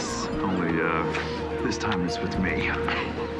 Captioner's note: laughs